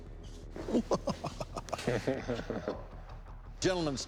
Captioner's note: chuckling; sinister chuckle